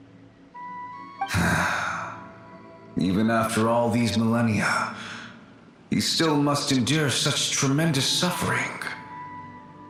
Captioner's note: sigh